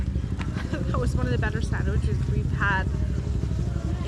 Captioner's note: laughs